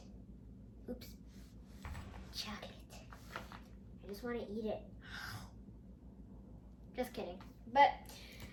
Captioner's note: book slides out of hands